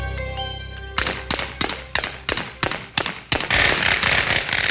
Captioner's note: gunfire